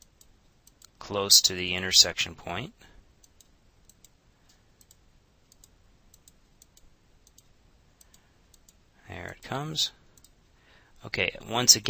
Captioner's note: silence